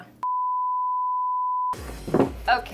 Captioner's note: beeping